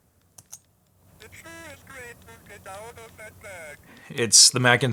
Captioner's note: robotic Voice